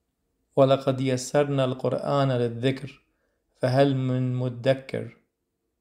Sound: Arabic

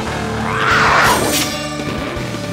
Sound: roaring

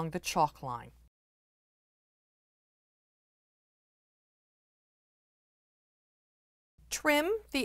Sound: no Sound Present

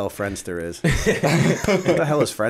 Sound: laughter

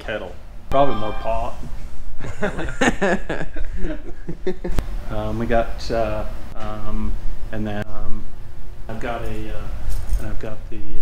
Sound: laughing

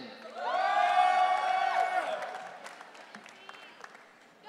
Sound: audience cheering

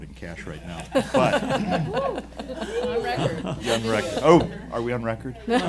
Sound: laughing

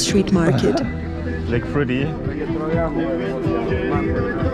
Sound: chuckles

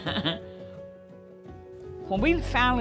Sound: laughing; soft music

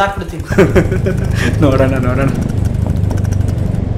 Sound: sarcastic laugh

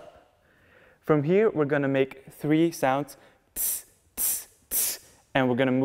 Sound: tss-tss-tss

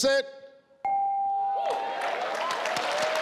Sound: chime; crowd cheering

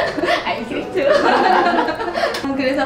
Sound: laughs

